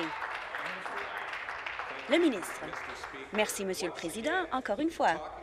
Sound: applause

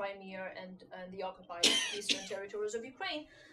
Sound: student coughs drowning out

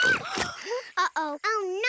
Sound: girls gasp and yelp; mud splurts

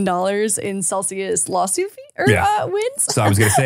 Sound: laughs

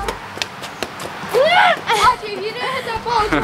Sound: laughing

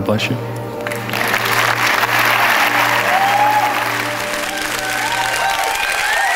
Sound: congregation applauds and cheers

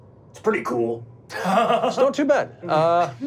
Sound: laughing

